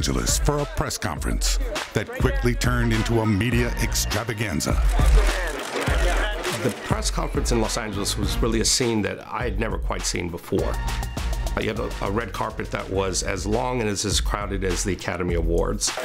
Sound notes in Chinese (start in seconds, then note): 4.9 快門聲